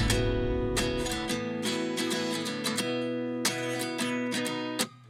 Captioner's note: road noise fades away